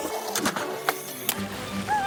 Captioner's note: skateboard rolling